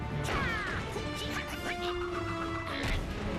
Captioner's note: grunting